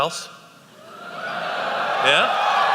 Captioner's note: cheering